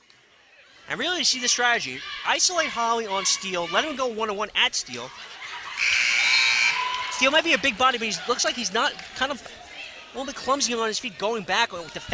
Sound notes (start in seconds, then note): 5.8 buzzer sounding